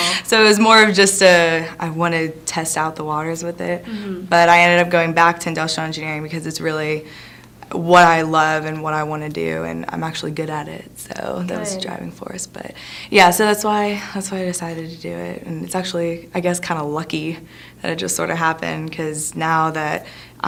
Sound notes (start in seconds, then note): none